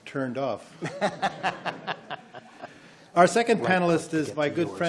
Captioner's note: laughing